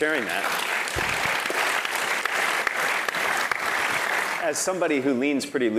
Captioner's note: applause